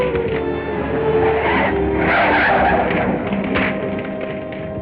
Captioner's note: flames crackling; tires screeching